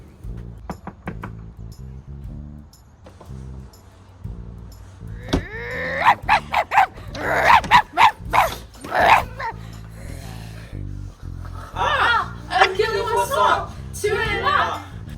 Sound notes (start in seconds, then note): 5.9 WAF WAF DUBOIS barks